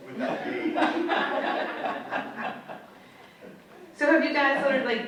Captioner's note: audience laughs